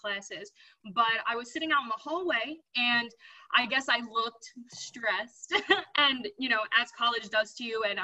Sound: laugh

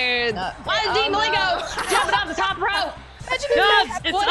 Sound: laugh

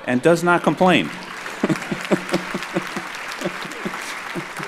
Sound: audience applauds

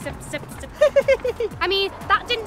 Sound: laughs

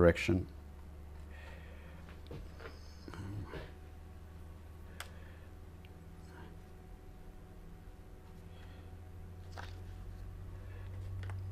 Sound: silence

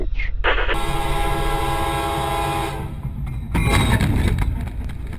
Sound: train horn blares

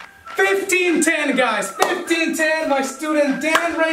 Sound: hands clapping; hands clapping

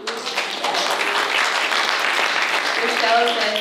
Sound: applause

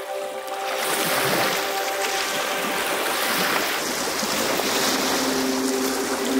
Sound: ethereal music; water lapping

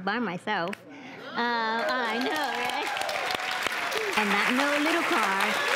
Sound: audience claps and cheers

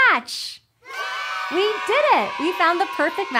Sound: kids cheering

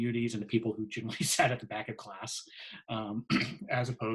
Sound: laughs; clears throat

